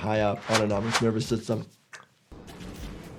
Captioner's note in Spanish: imita el sonido de un corte